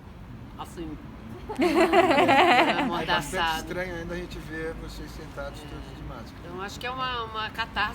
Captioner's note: laughs